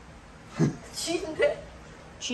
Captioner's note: laughter